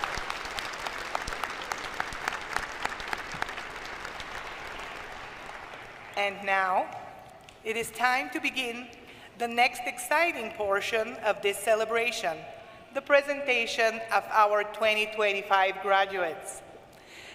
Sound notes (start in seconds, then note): 0.0 applause; 4.3 cheers